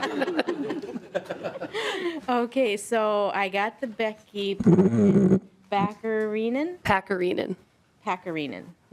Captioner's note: laughing